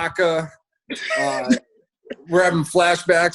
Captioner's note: laughs